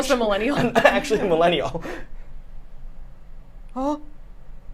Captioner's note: laughs